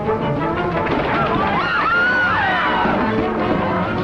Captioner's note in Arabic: تشغيل موسيقى درامية; يصرخ